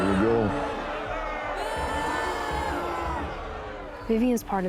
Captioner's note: crowd booing, shouting